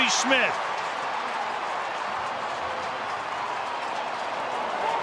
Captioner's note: crowd cheering